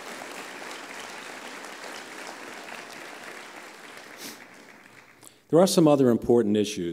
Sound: applause

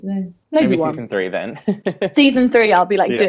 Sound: laughing

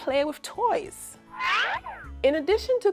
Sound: Acme siren whistling

